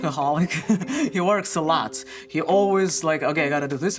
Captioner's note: chuckles